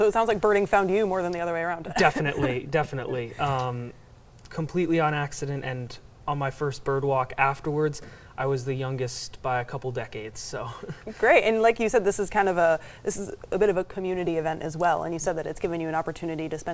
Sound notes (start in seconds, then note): 2.0 laughs; 10.7 chuckles